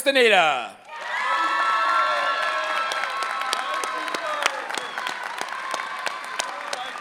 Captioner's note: applause